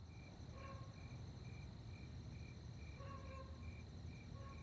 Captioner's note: crickets chirping